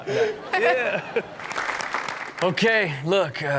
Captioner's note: audience clap